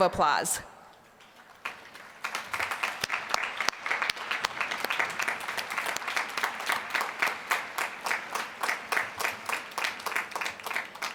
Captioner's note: applause